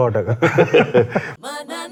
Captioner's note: laughs